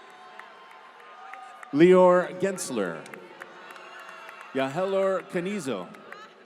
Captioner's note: applause